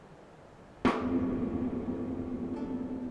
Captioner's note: paddle thudding; gentle music